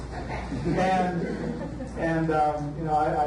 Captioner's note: audience laughs